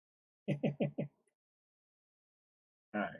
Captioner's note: chuckles